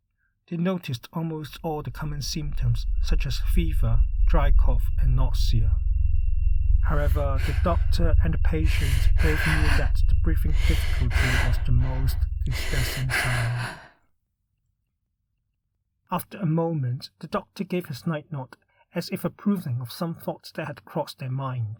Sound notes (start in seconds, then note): 4.7 humming noise; 6.8 heavy breathing